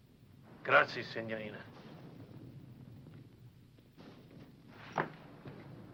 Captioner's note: speaking foreign language